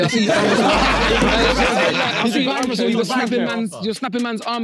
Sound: everyone laughing

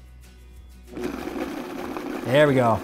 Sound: blender whirring

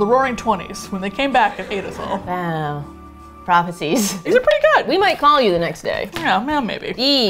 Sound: laughs

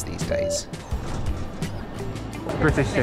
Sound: turnstile beeps

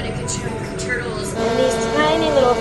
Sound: buzzing noise

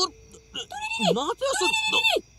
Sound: alien talking

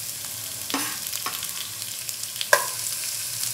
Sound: pan sizzling

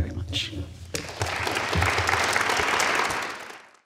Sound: crowd applauding

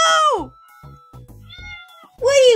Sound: meow

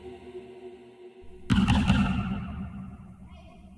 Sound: knocking

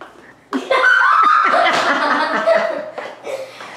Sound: laughter

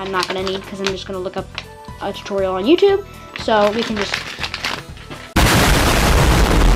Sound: explosion

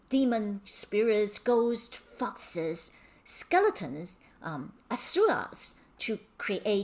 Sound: speaking in Mandarin

